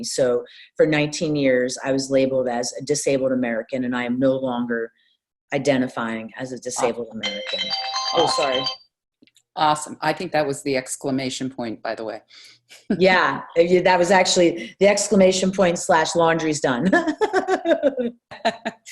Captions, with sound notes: So for 19 years, I was labeled as a Disabled American, and I am no longer identifying as a Disabled American. [RINGTONE] Awesome. Oh, sorry. Awesome. I think that was the exclamation point, by the way. Yeah. Yeah, that was actually the exclamation point slash laundry's done. [LAUGHTER]